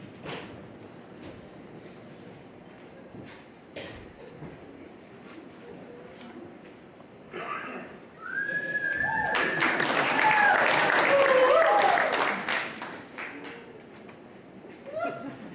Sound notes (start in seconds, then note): 8.9 audience applauds